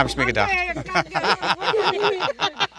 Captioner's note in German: Lachen